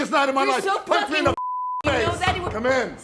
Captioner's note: knock on door